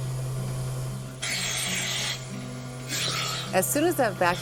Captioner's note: vacuum pump whooshing